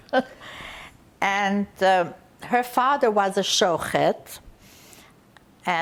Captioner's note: laughing